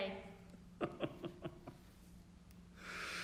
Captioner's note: Edwin laughs